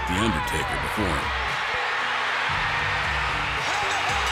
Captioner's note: crowd cheers; bell rings